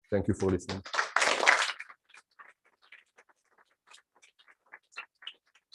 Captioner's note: applause